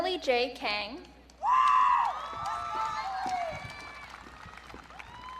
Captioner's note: audience cheering